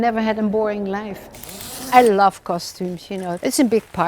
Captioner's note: zipper zips